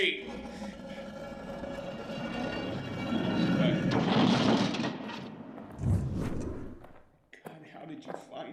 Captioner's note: stones dragging; foot steps